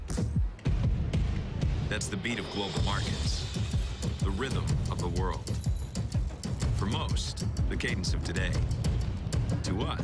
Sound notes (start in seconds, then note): 5.4 heart beat